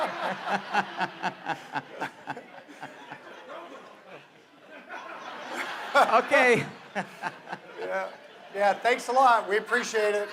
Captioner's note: laughter